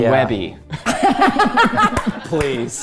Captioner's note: laughing